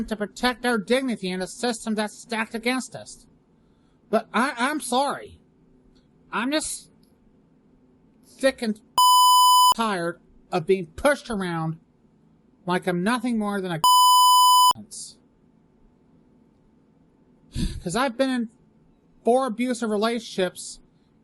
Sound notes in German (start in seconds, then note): 13.8 Piep